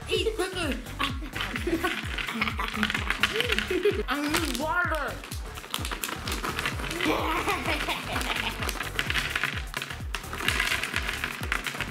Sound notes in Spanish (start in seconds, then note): 2.5 ríe maniacally; 6.8 ríe maniacally